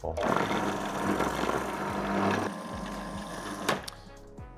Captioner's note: blender rumbling